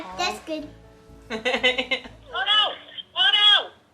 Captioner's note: mom laughing